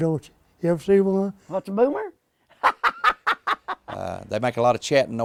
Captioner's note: laughter